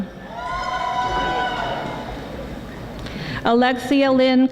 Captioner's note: audience applauding